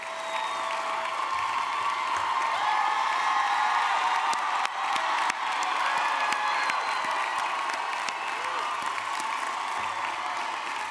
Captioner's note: cheering